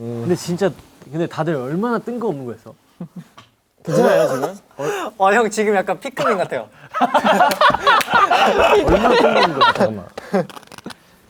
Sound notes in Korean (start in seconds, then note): 6.9 비웃음